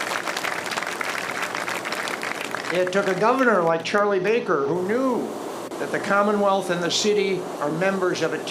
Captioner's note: applause